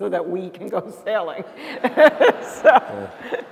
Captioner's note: laughter